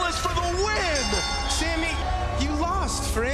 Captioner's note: bell ringing